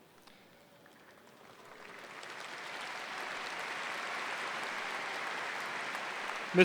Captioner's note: applause